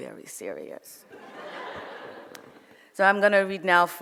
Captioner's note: audience laughs